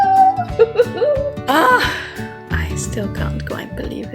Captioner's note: happily cheering; loudly sighs